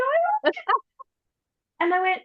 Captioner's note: laughs